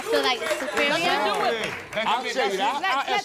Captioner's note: angry chatter